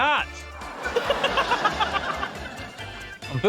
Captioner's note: laughter